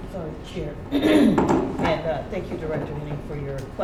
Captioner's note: clears throat